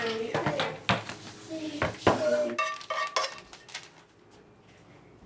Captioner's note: condiments clattering